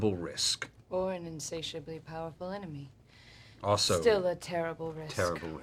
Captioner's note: none